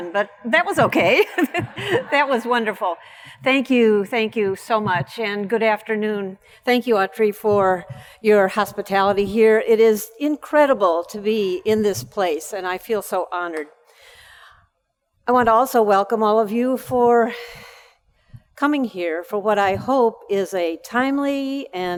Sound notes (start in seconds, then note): 1.0 laughs; 1.2 audience laughs